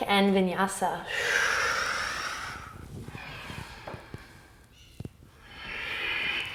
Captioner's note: deep breathing